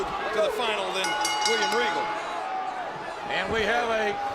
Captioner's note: bell dinging